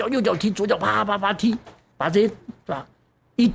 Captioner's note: slap slap slap